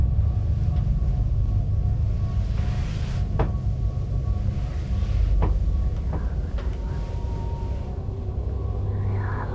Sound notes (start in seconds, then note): 3.8 footsteps thudding; 6.7 whispering